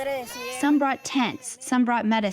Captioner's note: through translator